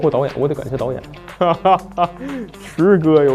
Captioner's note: hahaha